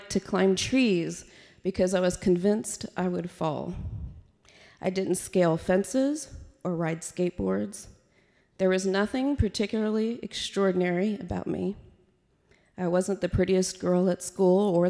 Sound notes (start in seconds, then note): none